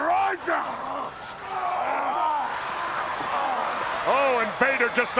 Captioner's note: wrestlers grunting